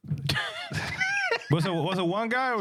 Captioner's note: laughing